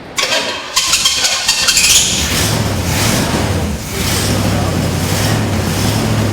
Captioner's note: engine turning over and running